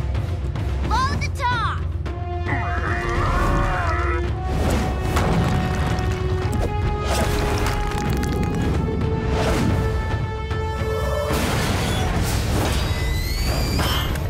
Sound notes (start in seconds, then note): 2.4 groaning